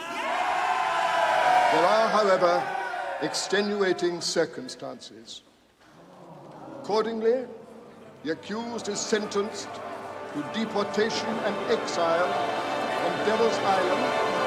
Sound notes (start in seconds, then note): 0.0 cheering; 5.9 audience groaning